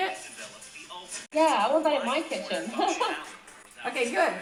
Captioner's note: laughs